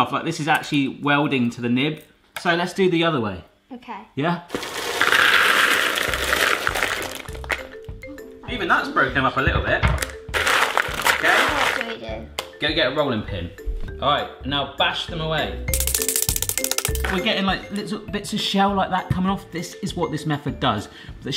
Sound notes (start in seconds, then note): 4.5 cocoa beans rattling; 6.5 whimsical music; 15.7 high speed rattling